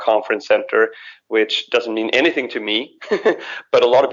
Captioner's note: laughs